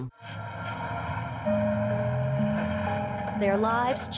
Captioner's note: truck engines rumbling